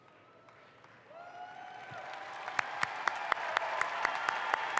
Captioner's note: audience applauds